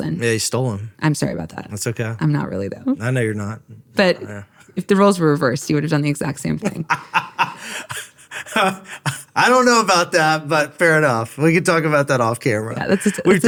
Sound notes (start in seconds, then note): 6.6 laughing